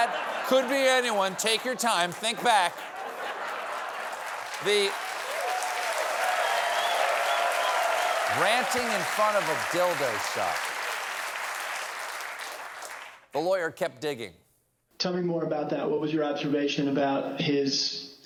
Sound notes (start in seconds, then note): 5.9 applause; 5.9 laughter